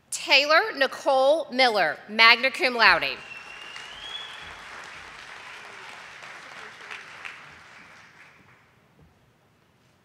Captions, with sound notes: Taylor Nicole Miller, magna cum laude. (audience applauding)